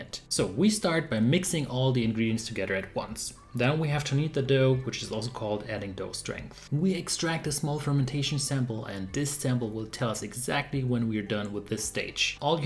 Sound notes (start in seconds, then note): none